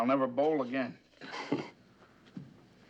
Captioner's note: chuckles